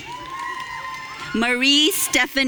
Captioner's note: audience cheering